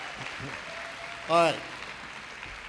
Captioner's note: applause